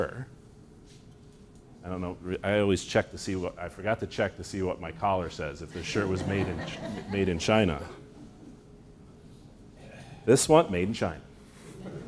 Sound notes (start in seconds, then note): 8.8 laughter